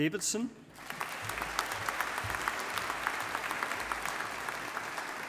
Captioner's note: audience applauding